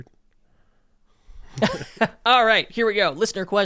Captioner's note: laughing